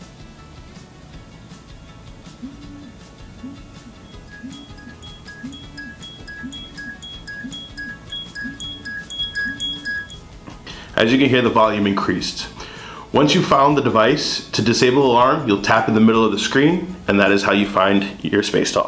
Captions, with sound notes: [Spacetalk Alarm Sound] As you can hear the volume increased. Once you've found the device to disable alarm you'll tap in the middle of the screen and that is how you find your Spacetalk.